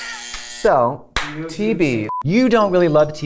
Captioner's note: beeping